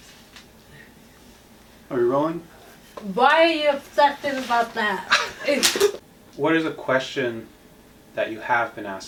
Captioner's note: laughing